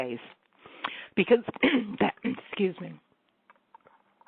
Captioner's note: clears throat